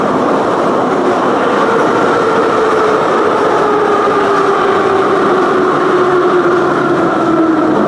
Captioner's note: braking - arrival at the station